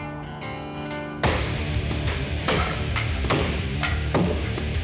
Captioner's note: wood chopping